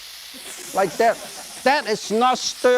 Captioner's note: audience laughing